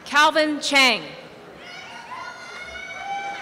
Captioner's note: applause and cheering